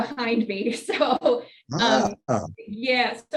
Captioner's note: laughs